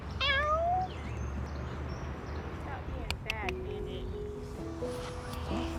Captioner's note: child mimics cat meow; soft piano music